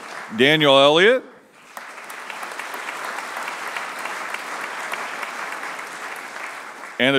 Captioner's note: applause